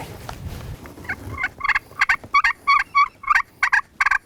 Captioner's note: turkey call